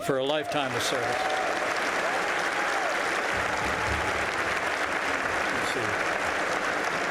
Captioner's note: applause